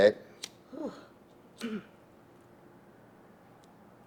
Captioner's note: clearing throat